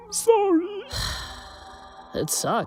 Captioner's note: sigh